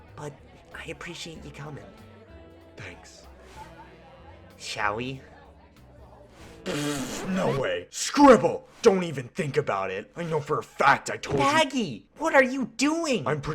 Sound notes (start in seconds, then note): 6.3 spits